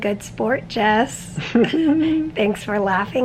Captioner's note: chuckling